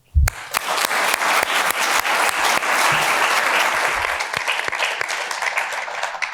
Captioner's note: applause